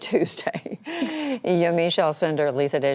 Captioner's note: laughter